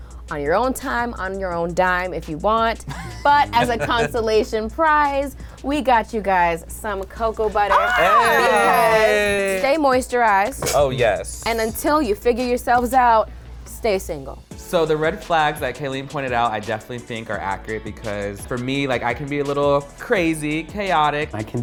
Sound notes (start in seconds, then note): 2.8 laughs; 7.6 both gasp